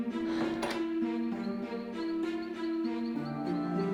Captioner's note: door opens; crickets